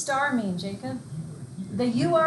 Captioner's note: murmurs